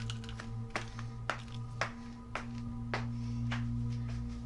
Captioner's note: steps fading